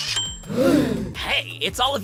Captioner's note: gasp